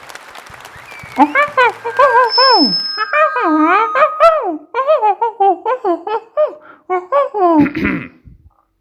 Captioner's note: monkey sounds